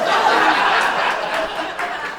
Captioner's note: crowd laughing